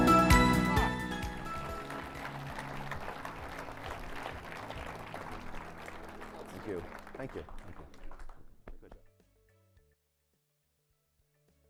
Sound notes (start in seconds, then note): 3.2 applause